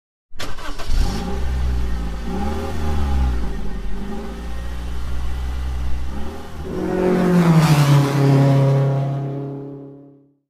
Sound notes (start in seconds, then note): 0.3 car Engine Starting & Revving